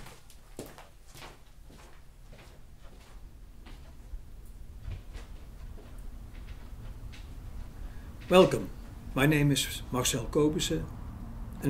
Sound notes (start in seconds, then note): 0.0 footsteps